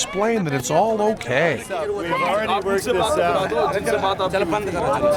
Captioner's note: non-english speech